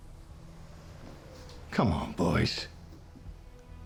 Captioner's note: tense music; scottish accent